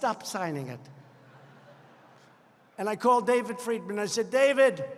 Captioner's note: laughter